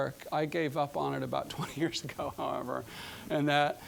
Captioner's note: chuckling